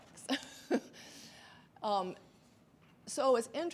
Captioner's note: laughs